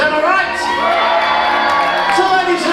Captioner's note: crowd cheering